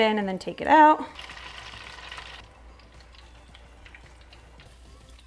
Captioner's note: hot oil sizzling